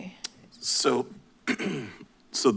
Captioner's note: clears throat